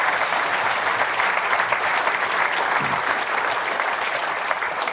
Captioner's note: audience applauds